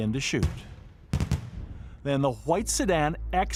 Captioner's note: gunshots popping